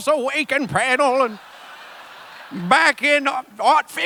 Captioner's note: laughter